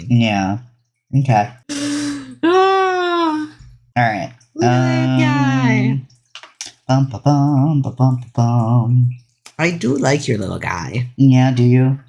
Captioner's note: hums